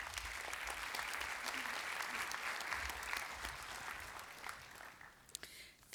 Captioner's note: applause